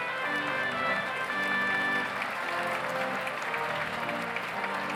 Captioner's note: audience applauds